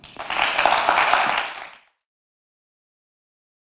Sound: applause

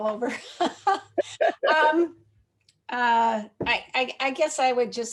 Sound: laughter

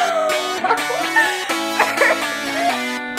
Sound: laughter; upbeat music

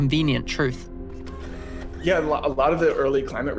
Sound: machine whirs

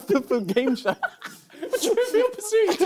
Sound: both laughing

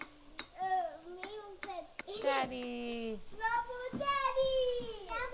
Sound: kids talking

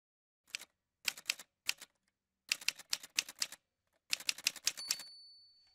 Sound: typewriter sounds

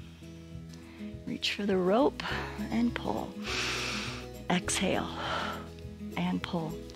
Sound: exhales

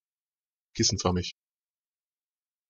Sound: fast Pronunciation

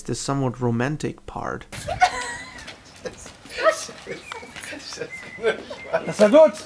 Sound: laughter

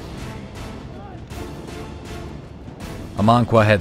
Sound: crowd cheers

